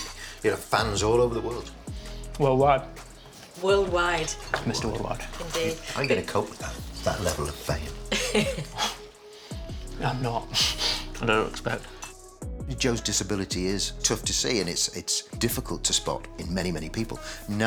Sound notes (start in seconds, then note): 7.8 chuckles; 10.9 chuckles